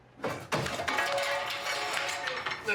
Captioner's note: brooms clattering